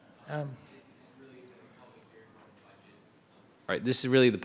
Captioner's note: faintly speaking